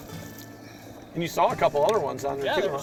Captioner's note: voiceover